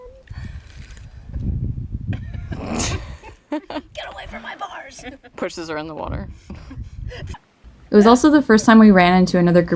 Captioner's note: laughter